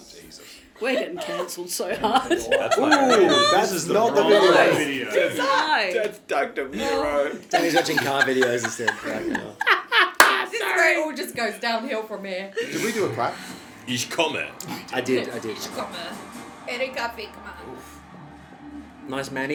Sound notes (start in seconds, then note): 0.0 continues to descend into chaotic giggling; 7.5 laughing; 10.3 losing it laughing